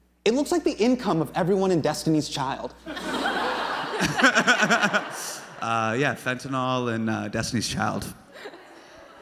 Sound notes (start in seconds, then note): 2.8 crowd laughs; 3.8 Hasan laughing